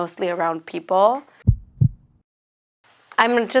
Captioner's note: heart beating